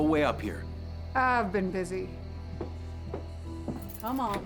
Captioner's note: footsteps; unlocks door